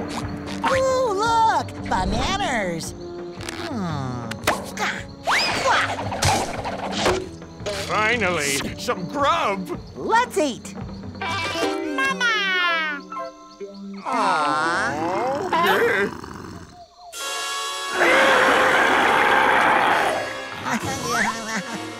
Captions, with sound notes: Oh, look, bananers. Hmm. [grunting] Finally, some grub. Let's eat. Mama. Awe. [growling] [roaring]